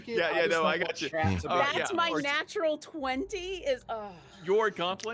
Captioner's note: sighs